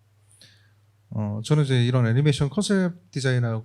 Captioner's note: speaking korean